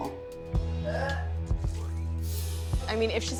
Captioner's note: retching